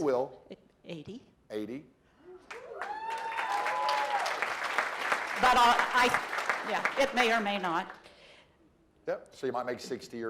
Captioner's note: cheering